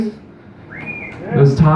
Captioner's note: light whistling; light cheering